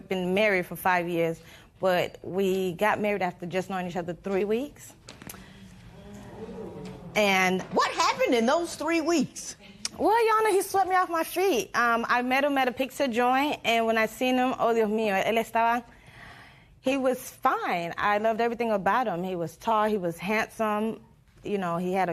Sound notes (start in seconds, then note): 5.8 spectators murmur; 14.7 speaks Spanish